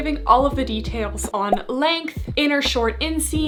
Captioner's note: graphics beeping